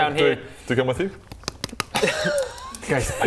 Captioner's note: thud thud thud